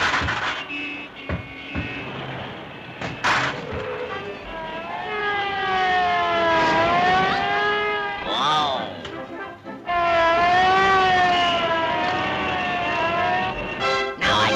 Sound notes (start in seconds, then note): 0.0 vehicles crashing; 0.2 horns honking; 4.9 siren blaring; 9.8 siren blaring